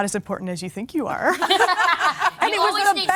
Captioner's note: laughing